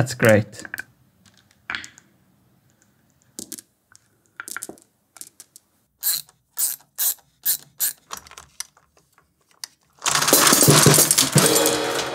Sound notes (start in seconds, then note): 1.7 marbles clicking; 6.5 ratchet clicking; 10.2 marbles falling, one marble hits cymbal